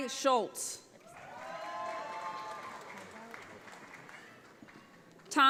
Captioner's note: audience applauds